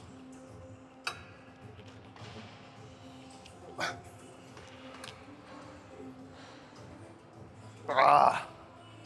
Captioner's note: soft music; groans